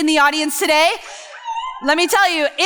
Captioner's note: few people cheering